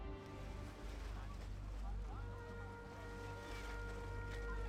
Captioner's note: faint Chattering